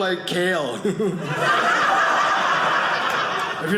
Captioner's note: audience laughing